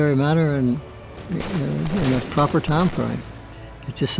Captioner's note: weapon blasts